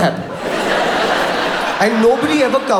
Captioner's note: audience laughs